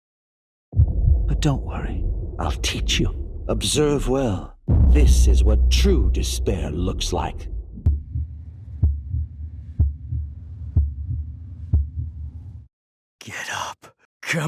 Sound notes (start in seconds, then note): 7.9 heart beating